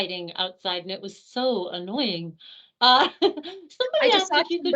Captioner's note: chuckling